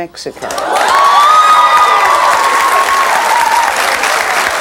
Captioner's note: audience cheering